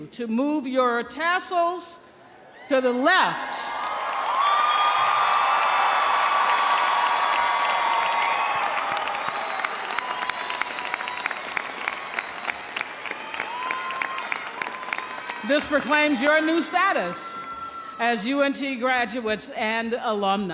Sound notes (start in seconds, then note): 3.7 audience applauding; 3.7 audience cheering